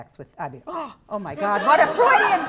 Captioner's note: gasps